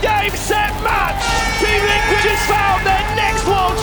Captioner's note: horn blaring